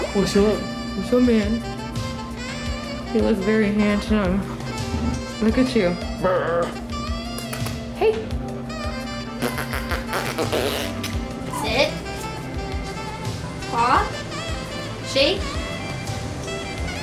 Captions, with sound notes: What's up? What's up man? You look very handsome. Look at you, grr. [Tongue clicks] Hey. [Blows through lips] Sit. Paw. Shake.